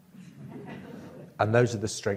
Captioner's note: audience laughs